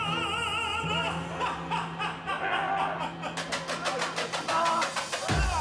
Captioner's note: laughter echoes